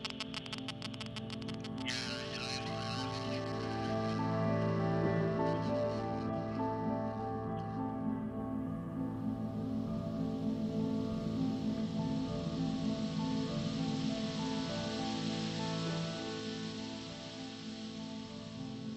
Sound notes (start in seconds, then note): 3.1 static buzzing; 7.0 static distorts man's speech; 9.9 ominous instrumental music